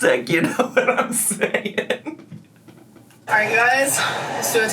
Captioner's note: laughing